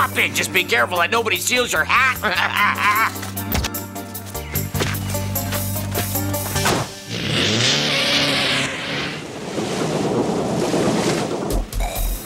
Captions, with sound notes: Just be careful that nobody steals your hat. (laughs) (door bangs) (engine revving) (barge rumbling)